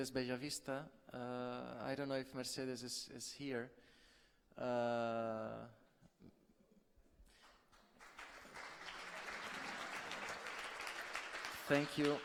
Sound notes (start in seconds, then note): 5.6 applause